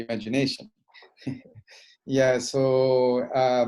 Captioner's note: laughing